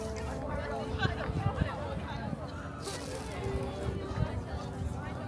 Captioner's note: people chattering